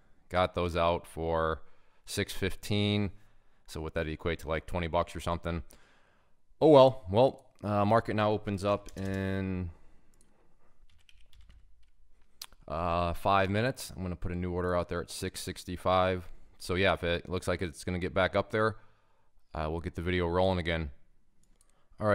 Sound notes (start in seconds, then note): 10.9 keyboard clattering